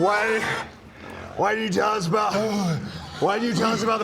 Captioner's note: hrgh